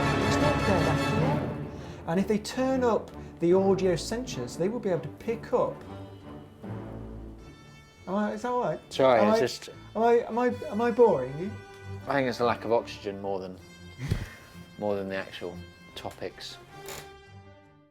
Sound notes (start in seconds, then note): 14.0 laughs